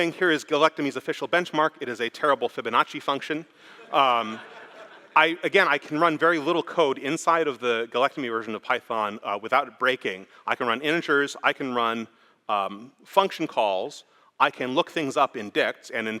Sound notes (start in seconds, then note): 3.7 laughter